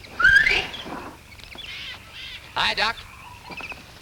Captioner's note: man whistles